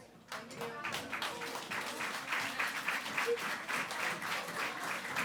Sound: audience applauding

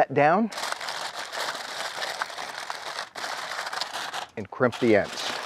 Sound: foil crinkling

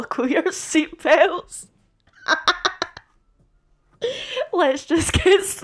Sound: more manic laughter

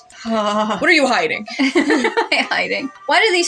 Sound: uncomfy Sigh; laugh

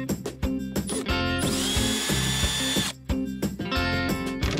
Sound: drill revving

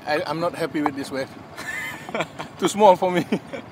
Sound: laughs

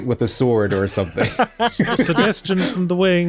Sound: laughing

